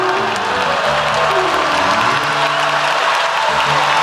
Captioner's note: applause